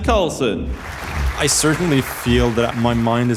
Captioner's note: audience applauding